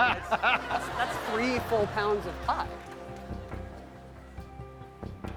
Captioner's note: laughter